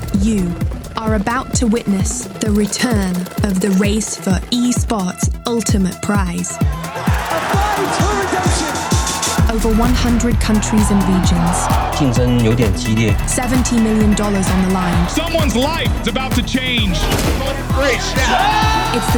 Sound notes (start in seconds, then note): 13.5 narrator in English; 18.6 cheers